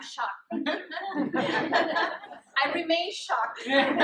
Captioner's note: audience laughs